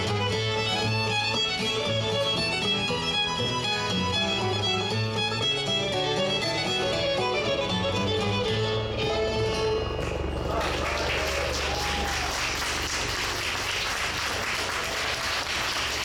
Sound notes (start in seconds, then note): 10.2 audience applauds